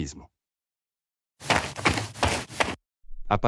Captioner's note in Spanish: FX - Footsteps - On Multiple Dirt - Run